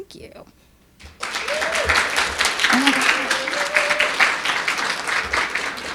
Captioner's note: audience cheering and applauding